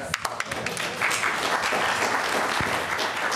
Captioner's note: applause